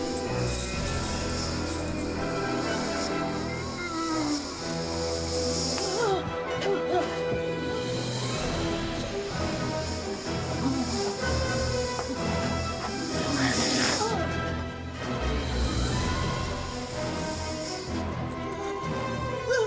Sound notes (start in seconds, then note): 0.3 zombie walter sniffing; 9.2 zombie miss guid sniffing; 17.1 zombie vish sniffing